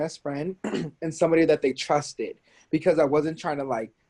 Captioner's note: clears throat